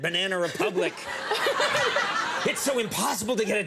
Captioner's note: audience laughing